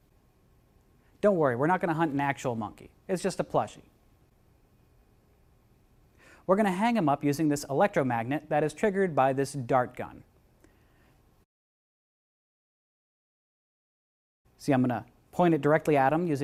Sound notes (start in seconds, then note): none